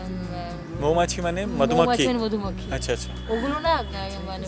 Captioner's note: honey bees